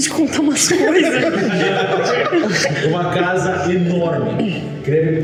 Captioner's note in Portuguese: risadas